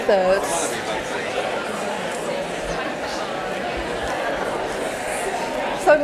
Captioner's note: general chattering